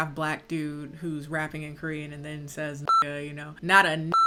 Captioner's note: beep